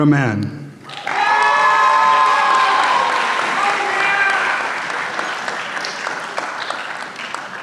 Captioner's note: applause